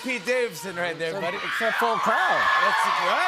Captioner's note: cheers and applause